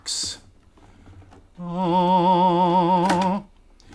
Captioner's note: religious humming